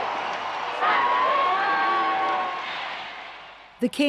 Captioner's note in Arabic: هتافات الجمهور